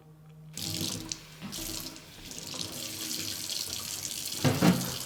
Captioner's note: water burbling